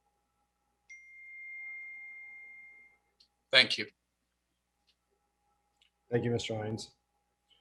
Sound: moment of silence

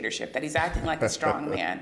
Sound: laughter

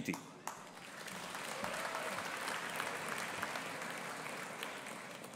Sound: audience applauding

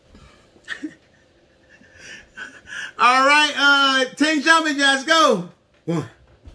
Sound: laughs

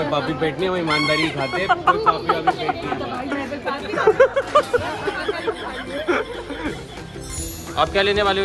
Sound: laughter

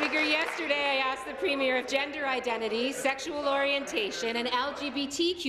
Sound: applause

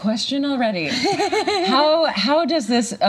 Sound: chuckles

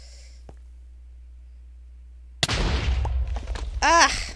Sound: tnt explodes

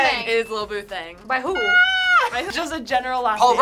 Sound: squeals

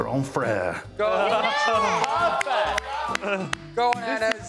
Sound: cheering

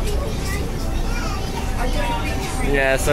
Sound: general Chatting

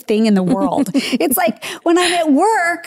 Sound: giggling

